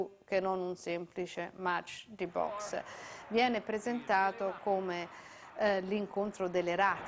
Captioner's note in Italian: Applauso